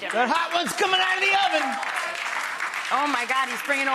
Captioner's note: audience applause